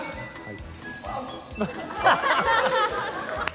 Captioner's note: laughs